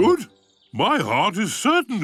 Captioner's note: bell rings